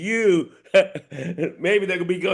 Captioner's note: laughing